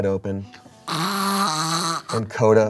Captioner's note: snores